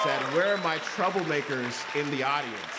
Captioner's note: applause